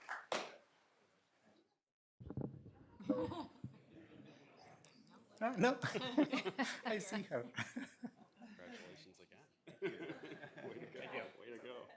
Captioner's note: applause